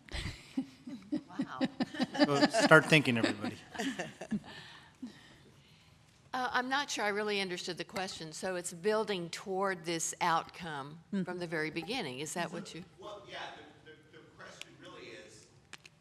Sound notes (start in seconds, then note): 3.8 chuckles